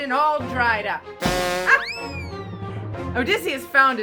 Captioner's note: clown horn; slide whistle